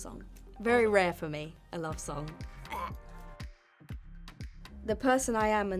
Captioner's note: gagging